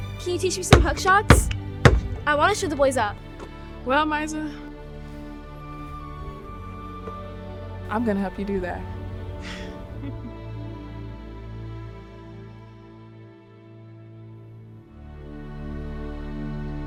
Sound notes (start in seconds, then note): 7.9 laughing; 10.9 gentle orchestral music